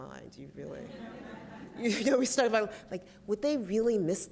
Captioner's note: laughter